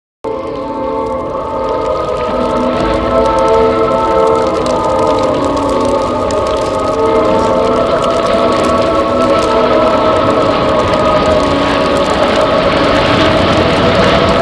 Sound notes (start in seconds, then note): 0.2 sound of water dripping; 5.9 sound of chorus chanting